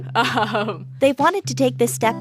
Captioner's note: laughter